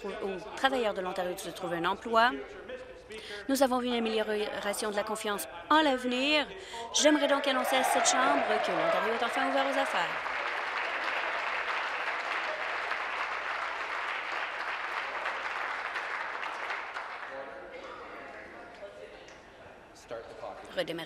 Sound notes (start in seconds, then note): 12.0 applause